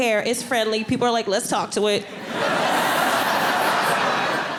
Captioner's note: audience laughing